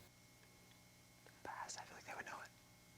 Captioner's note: whispering